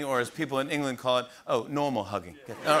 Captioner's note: English accent